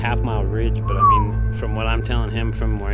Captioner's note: whistles